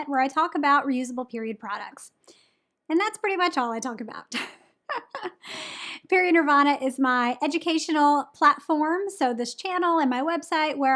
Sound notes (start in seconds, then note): 4.9 laughs